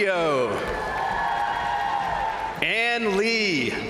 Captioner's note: crowd applauding; crowd cheering; crowd applauding; crowd cheering